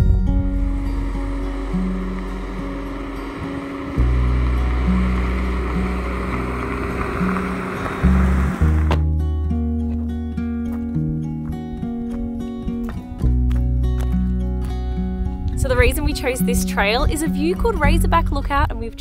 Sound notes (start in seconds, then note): 0.1 subtle guitar music; 7.7 tires crunching gravel; 8.7 car door shuts